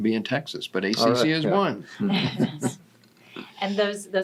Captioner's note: laughs